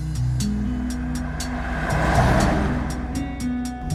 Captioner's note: truck drives